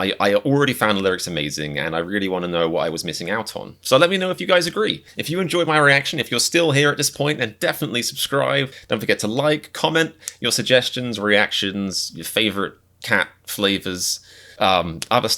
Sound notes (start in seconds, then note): none